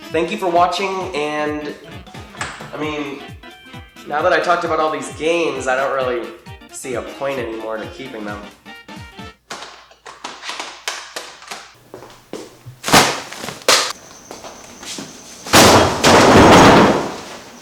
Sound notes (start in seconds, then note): 12.8 thud; 15.4 crash